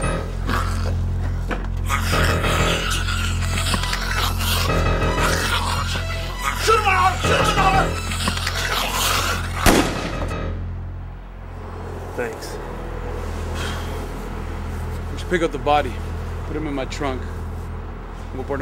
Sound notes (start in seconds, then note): 1.7 zombie growls; 9.6 gun fires